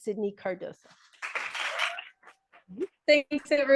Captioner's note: audience applauding